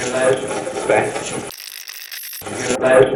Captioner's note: radio scratching